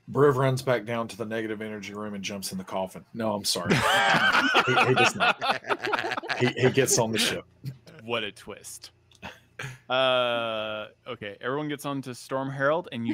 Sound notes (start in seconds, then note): 3.7 all laugh